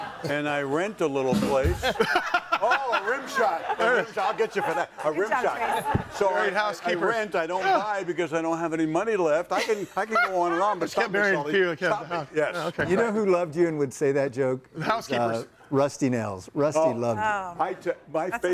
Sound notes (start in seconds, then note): 1.7 laughs